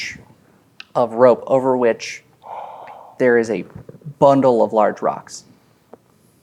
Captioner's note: gasps quietly